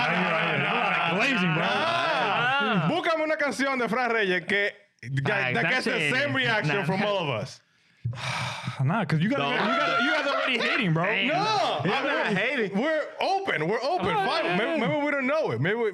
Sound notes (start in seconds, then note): 0.0 laughing; 2.8 speaking In Foreign Language